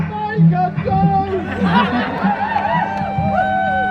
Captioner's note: crowd Chants